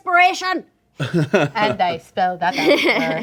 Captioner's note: laughing